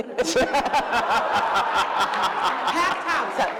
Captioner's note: laughter